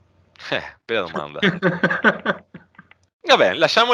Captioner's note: laughs